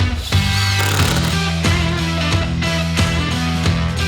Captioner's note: drill turning rapidly